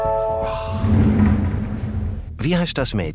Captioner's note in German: Erleichtertes Seufzen